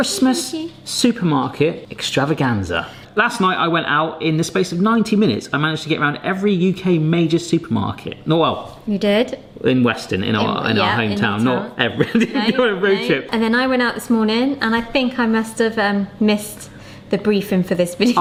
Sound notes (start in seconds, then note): 11.9 laughing